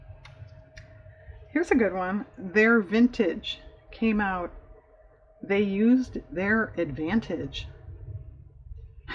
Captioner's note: laughs